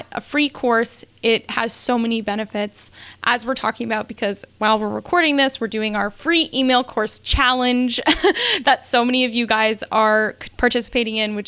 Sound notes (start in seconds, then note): 8.0 laughs